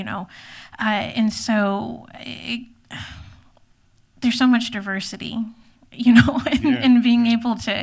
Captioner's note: sigh